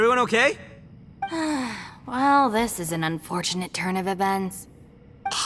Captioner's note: sigh